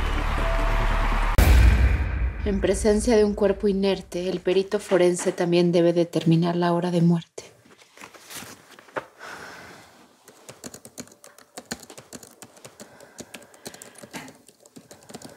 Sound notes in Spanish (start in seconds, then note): 4.2 Sonido al teclear